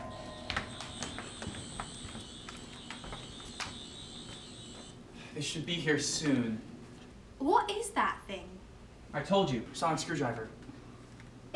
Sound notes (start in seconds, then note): 5.1 sonic buzzing